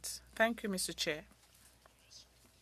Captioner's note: speaking French